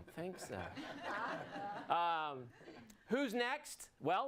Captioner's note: audience laughs